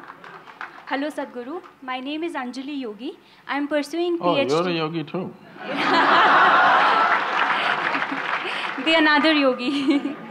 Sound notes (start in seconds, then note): 5.6 laughter/Applause; 5.7 laughs